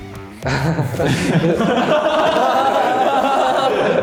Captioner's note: just laughs